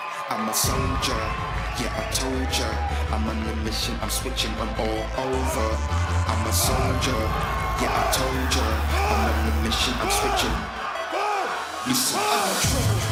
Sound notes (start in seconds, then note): 0.0 crowd cheering